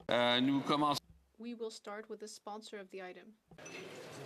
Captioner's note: speaking French